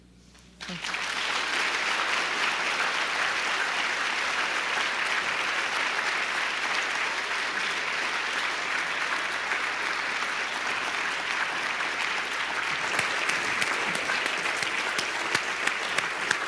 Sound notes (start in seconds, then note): 2.0 claps